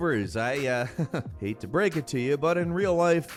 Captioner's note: laughs